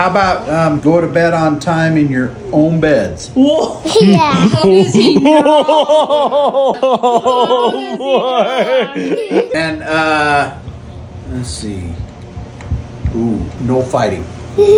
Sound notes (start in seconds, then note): 3.8 laughing